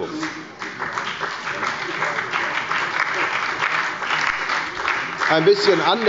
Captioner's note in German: Beifall bei der FDP und der SPD sowie bei Abgeordneten der LINKEN